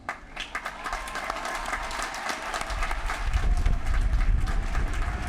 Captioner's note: applause